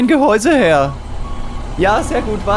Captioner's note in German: Lieferwagen fährt rückwärts Soundeffekt